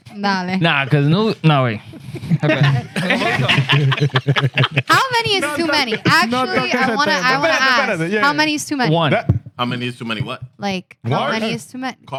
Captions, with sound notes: (Speaking Spanish) (Laughter) How many is too many? Actually, I want to ask. How many is too many? One. How many is too many? What? Like, how many is too many?